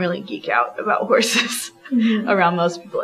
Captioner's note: laughs